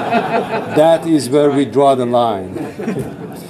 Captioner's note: laughter